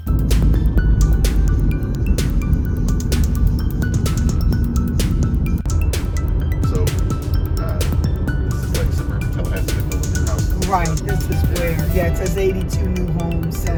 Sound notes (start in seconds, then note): 0.2 air whooshing; 0.2 car engine humming; 9.0 faintly speaks